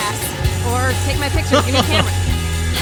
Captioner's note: laughs